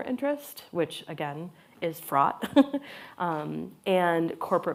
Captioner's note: laughs